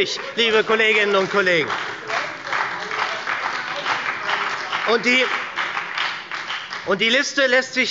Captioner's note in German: Beifall bei der SPD und der FDP